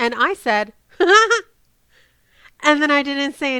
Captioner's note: laughs